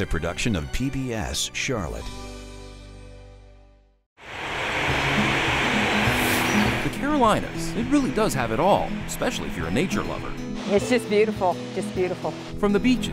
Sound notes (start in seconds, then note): 4.2 waterfall